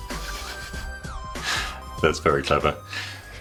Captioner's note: both chuckling